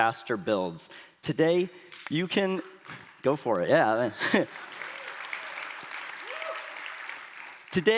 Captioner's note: applause